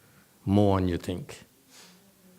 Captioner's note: sniffs and turns head away